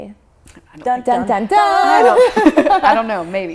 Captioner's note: laughs